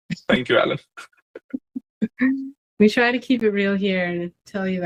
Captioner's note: laughs